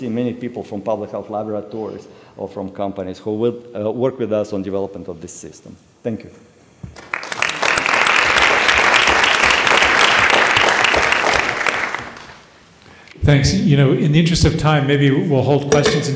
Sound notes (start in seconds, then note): 6.9 applause